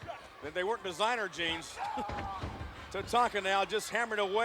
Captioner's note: chuckles